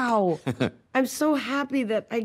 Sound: laughing

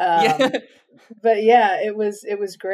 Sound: laughs

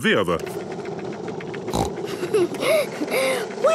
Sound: giggles, snorts

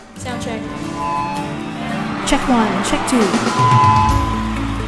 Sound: soundcheck effects

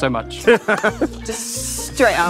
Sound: Kit and Amita laugh

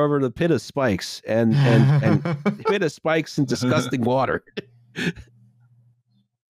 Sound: laughter

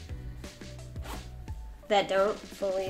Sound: zippers close

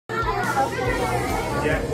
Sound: kids chattering

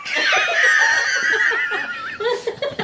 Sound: delerious Laughter

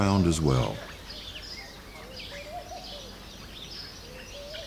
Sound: sounds of birds

